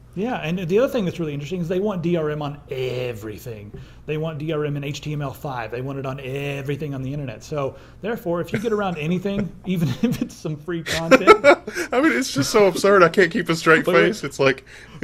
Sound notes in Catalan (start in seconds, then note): 10.8 riures